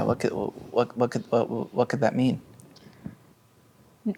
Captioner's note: stammers